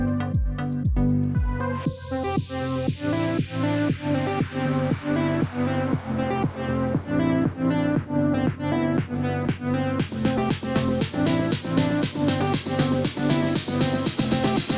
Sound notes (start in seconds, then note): none